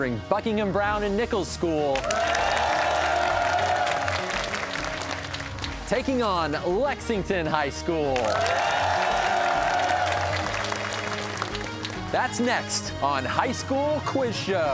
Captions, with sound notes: Buckingham Browne & Nichols School... (cheers and applause) ...taking on Lexington High School. (cheers and applause) That's next on "High School Quiz Show."